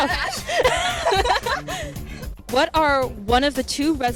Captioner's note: laughter